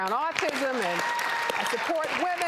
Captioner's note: cheering and applause